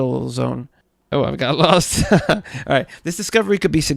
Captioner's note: laughs